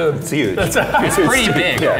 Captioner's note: laughing